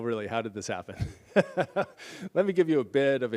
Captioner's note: laughs